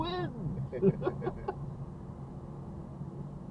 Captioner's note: both of us laughing